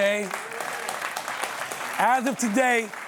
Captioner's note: applause